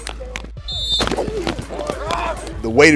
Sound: whistle

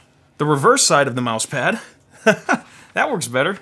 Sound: laughs

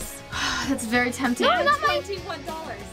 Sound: sighs

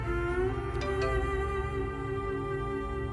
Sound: phone chimes

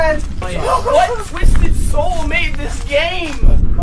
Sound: nervous laughter

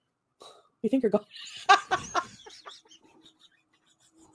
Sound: laughs

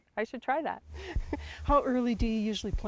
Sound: chuckles

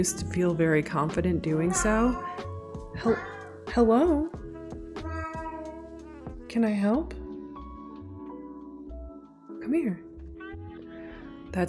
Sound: cat meowing; more meowing

